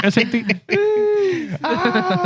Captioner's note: laughing